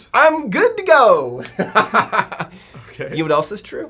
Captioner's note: laughing